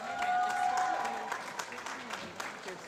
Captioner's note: applause